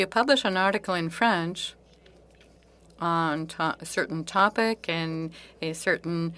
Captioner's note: speaking French